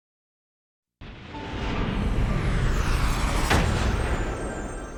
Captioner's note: dramatic sound